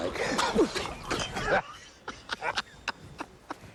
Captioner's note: both laughing